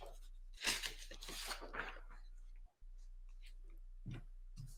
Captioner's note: papers clattering